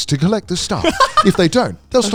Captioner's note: laughing